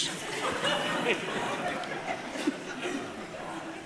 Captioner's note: audience laughing